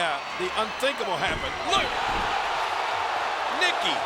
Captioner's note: spectators cheering